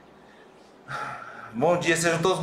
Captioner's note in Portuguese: suspiro